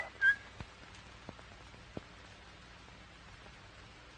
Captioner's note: whistling